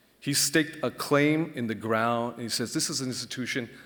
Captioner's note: none